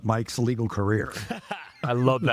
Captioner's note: laughing